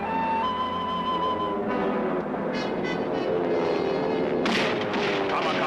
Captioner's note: plane engine roaring; artillery firing